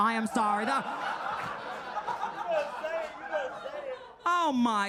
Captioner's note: audience laughing